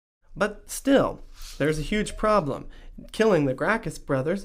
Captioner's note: voiceover